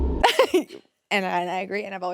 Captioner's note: laughs